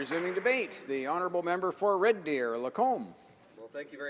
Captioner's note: some Applause